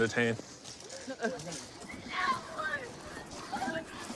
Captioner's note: yelling